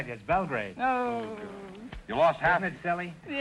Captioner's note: moaning